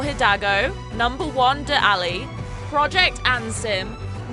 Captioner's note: none